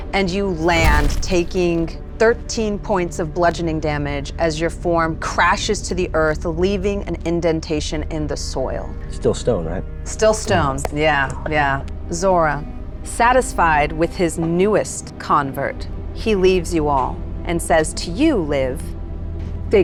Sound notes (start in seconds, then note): none